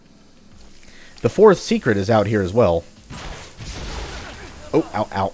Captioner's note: Scavver grunting in pain